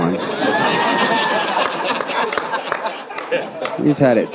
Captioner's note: audience laughing